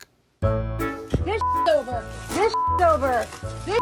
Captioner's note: beeping